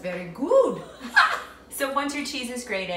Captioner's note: both ladies chuckles